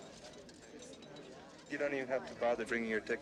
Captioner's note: coins clinking, people talking in background